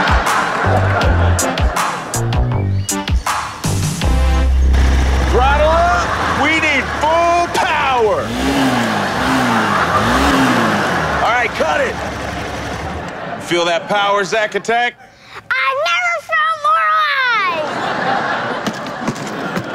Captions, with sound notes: (audience laughs) (upbeat music) - Throttle up, we need full power. (machine whirs) All right, cut it. Feel that power, Zack attack? - I never felt more alive.